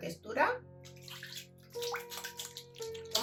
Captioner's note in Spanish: sonido de agua